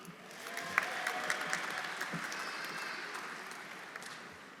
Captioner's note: audience applauding